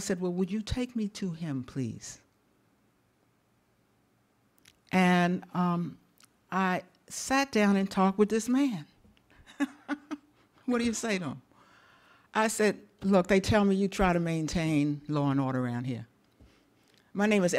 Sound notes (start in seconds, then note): 9.4 chuckles